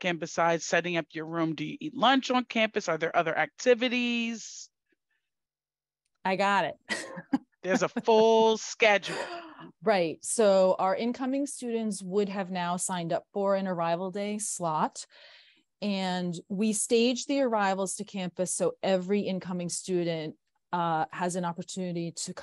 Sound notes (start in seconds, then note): 7.6 laughs